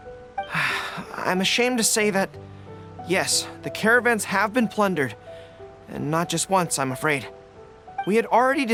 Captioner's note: sigh